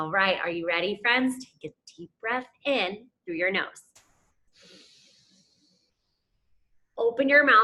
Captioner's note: inhales deeply